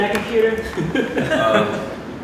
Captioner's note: laughter